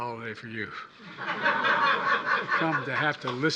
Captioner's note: laughter